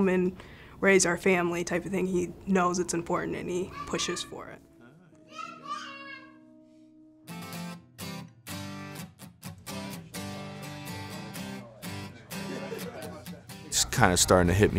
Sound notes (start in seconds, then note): 5.2 baby talking; 7.5 upbeat guitar music